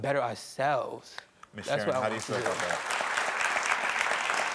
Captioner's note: crowd clapping